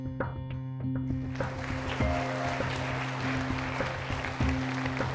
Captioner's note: upbeat music; audience claps